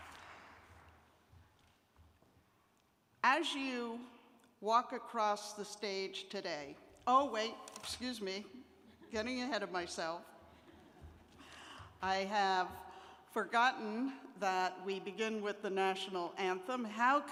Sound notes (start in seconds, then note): 12.0 laughter